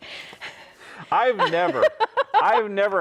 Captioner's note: chuckles; laughs